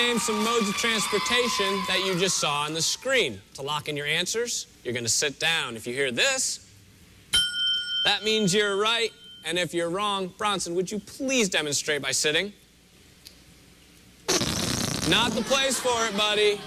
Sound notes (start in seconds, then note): 14.2 farting noise